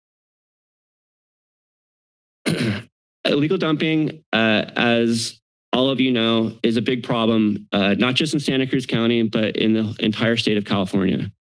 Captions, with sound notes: [clears throat] Illegal dumping as all of you know is a big problem not just in Santa Cruz County, but in the entire state of California.